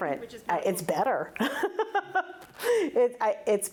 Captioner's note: laughs